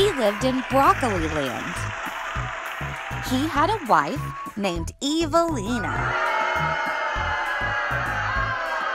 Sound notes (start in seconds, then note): 5.8 crowd booing